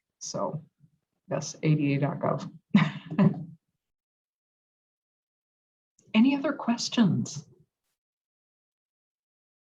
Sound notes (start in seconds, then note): 3.0 laugh